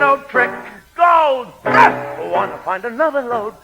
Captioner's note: grunts